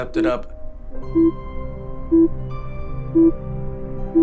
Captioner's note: screen beeping